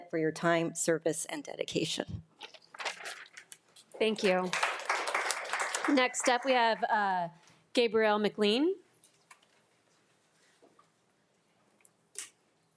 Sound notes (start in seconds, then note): 4.2 attendees applauding